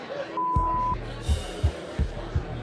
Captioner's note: beep; intense music